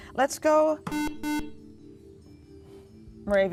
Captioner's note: beeping